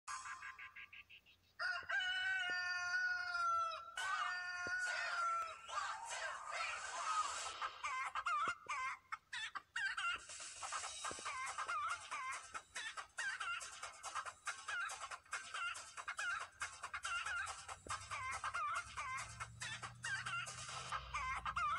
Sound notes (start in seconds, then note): 8.2 chicken noice; 14.5 chicken noice intensifies